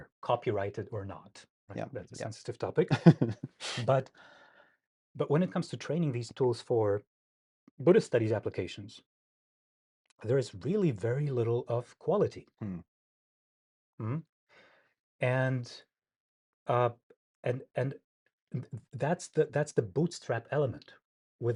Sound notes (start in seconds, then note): 3.0 laughs